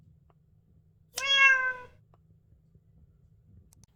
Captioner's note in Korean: 고양이 울음소리